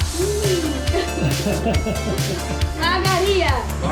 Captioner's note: laughing; in Georgian